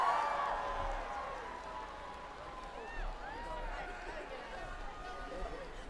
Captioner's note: applause